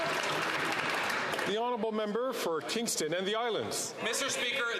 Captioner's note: some Applause